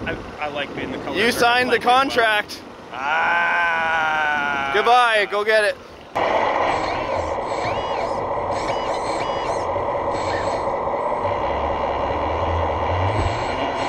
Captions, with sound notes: I like being the color of dirt by the way - You signed the contract. - Ah. (groans) - Goodbye, go get it. (machinery engine revs) (machinery squeaks)